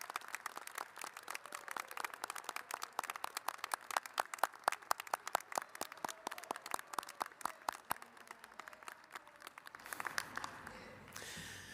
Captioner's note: applause